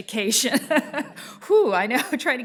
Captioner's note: laughs